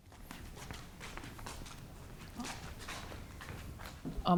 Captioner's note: feet stomping